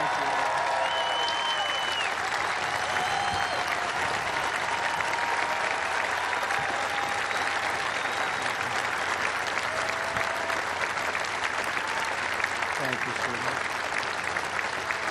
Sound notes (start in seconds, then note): 3.7 cheers and applause